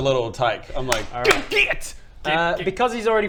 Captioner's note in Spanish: clap clap